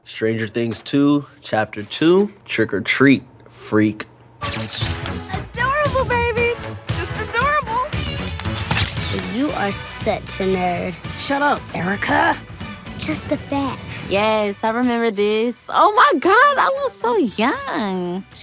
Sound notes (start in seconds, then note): 4.5 camera clicks; 4.9 upbeat music; 8.2 camera clicks